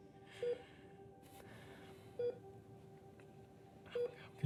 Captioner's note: heart monitor beeping